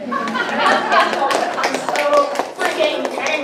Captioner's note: audience applauding